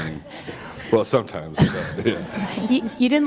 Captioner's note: chuckle